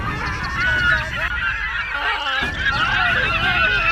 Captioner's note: gulls squawking; gull screeching